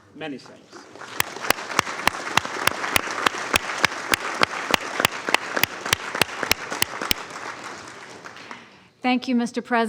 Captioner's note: applause